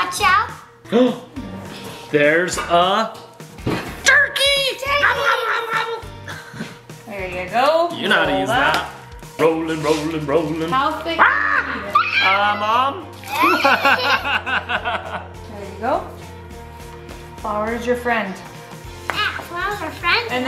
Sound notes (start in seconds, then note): 1.0 dad gasps; 6.5 dad chuckles; 11.2 dad and screaming; 13.2 laughing